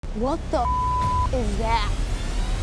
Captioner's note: beep